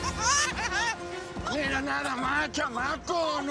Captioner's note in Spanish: risas; gritos